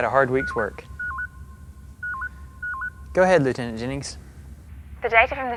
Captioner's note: intercom signal